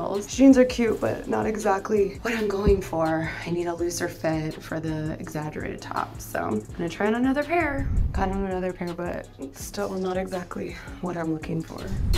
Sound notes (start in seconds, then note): 7.8 transition whooshing; 11.9 transition whooshing